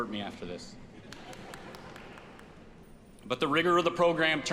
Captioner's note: audience applauds